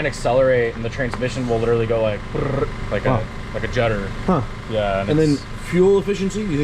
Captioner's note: makes trilling noise